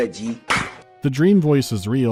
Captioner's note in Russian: шлёп